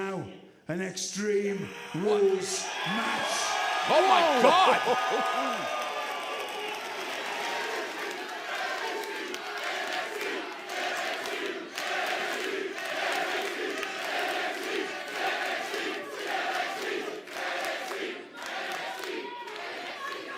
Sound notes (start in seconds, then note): 12.0 crowd cheering; 14.5 crowd chatter